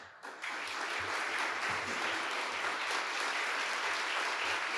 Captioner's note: audience applauding